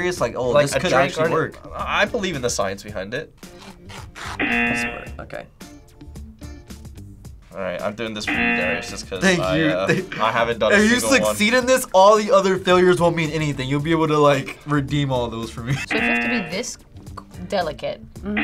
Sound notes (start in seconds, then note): 4.4 buzzer rings; 15.8 buzzer rings